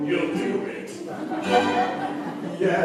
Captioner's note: laughter